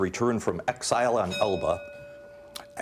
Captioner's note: bell dinging